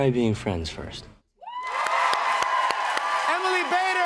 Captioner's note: cheers and applause